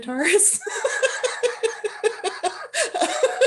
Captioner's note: laughter